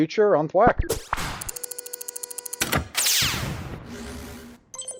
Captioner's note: electronic Noises